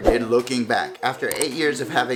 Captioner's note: air swooshing; click